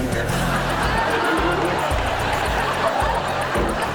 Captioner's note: audience laughs